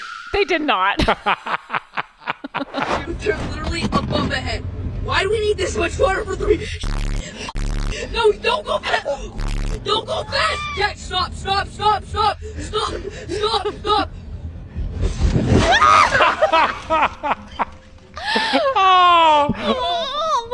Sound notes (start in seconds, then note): 1.0 laughing; 15.2 banging; 16.1 laughing